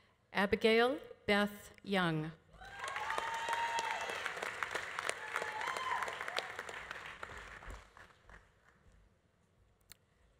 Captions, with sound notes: Abigail Beth Young. (audience applauding) (audience cheering)